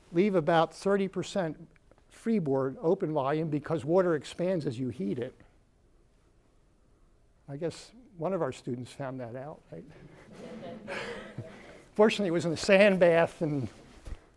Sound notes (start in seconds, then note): 9.9 laughter